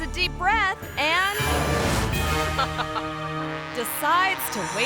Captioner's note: suspenseful music; friend laughs